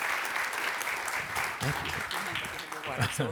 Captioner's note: applause